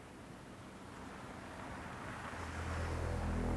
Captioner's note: car approaching